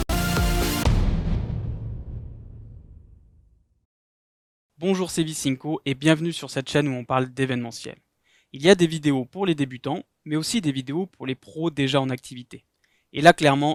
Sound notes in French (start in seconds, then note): 0.7 Boum